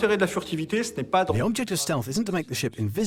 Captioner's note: voiceover